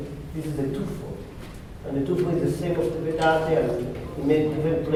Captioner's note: spanish